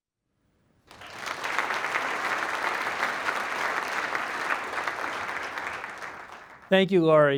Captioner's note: applause